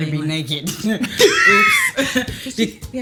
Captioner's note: laughs